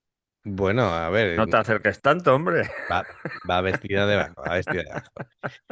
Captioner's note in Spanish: risas